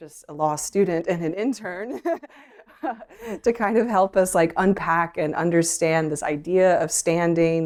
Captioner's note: laughter